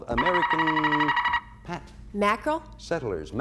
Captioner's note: buzzer sounds